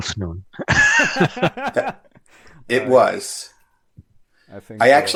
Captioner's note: laughter